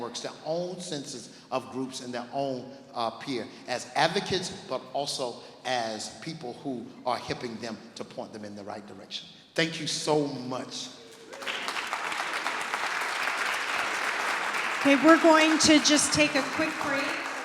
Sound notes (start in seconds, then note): 11.2 clapping